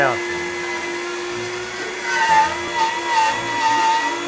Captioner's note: Dremmel buzzing